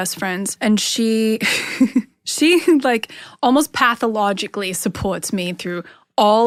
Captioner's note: laughs